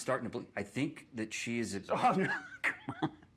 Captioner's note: laughs